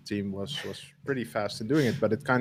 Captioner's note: laughs